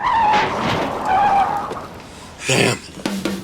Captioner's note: tires screech